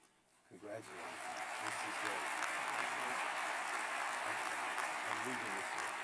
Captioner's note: applause